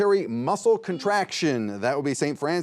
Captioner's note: buzzer beeps